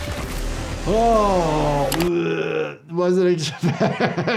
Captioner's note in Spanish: se atraganta